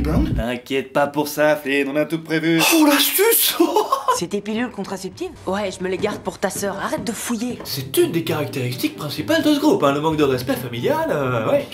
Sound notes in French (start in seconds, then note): 3.5 rire